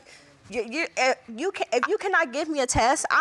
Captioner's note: stammers